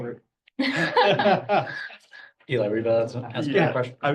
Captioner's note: laughter